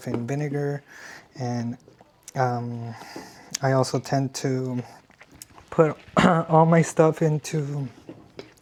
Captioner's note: clears throat